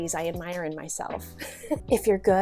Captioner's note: giggles